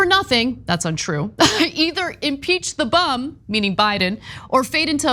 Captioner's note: cough